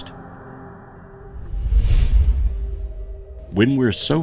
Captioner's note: air whooshing